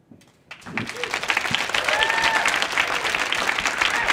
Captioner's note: audience clapping